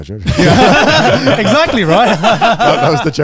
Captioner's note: laugh